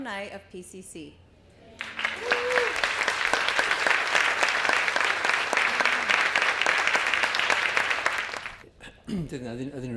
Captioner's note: applause